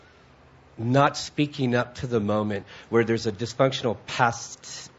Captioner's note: none